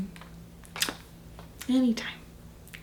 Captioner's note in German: Kuss-Schmatzen